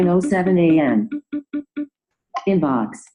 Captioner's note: beeping